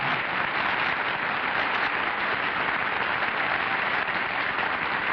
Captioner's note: applause